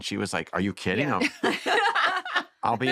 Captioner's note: laughter